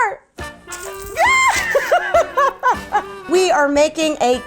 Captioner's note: laughing